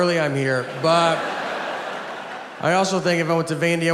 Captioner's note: audience laughs